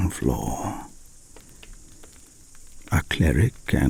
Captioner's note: fire crackling and night insect buzzing